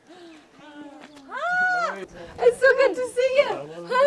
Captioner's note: screaming